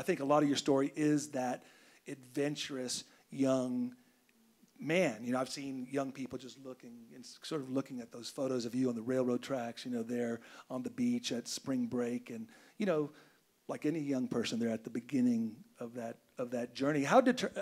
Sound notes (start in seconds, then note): none